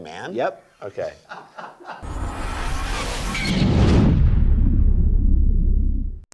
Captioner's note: laughing